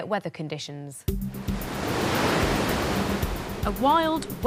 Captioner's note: water rushing